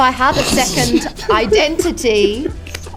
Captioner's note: snickers